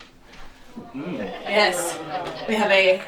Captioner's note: audience oohs